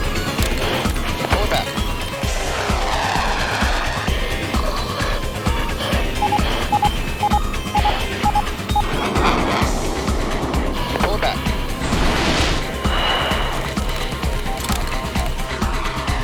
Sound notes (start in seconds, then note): 2.5 aircraft engine roaring